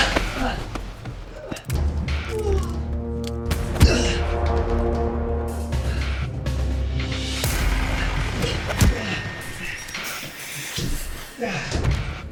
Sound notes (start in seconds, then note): 0.0 Fred groaning; 2.6 dramatic music; 8.8 punch striking